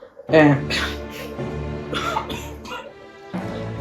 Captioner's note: coff